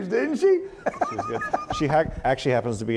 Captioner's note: laughs